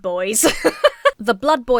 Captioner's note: laughs